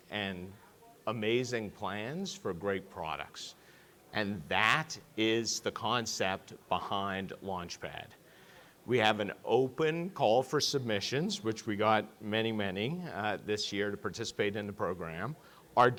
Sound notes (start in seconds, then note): none